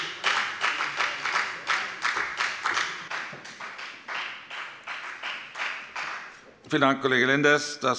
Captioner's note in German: Beifall bei der FDP